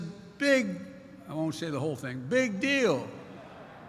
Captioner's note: laughter